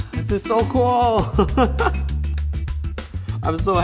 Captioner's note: laughs